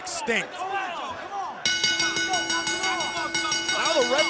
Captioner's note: bell ringing